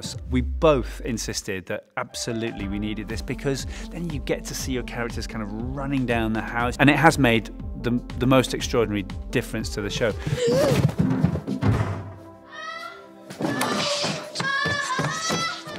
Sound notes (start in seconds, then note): 10.2 child gasping; 11.0 thud; 12.4 child crying out